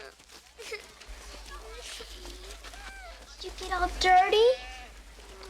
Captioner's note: whimpering